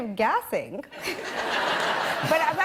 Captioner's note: laughter